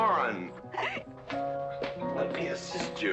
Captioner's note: Mrs. Warren giggling